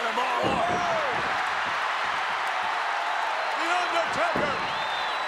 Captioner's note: audience cheers